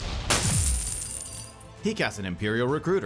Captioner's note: coins clatter